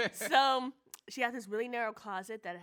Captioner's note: laughs